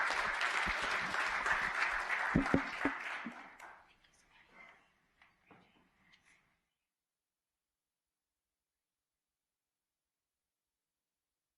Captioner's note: applause